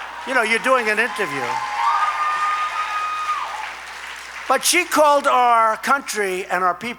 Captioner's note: laughter and applause